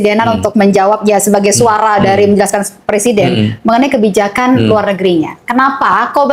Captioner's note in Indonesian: berdehem